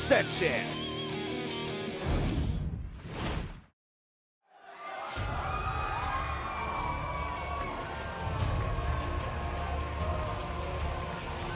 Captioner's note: crowd cheering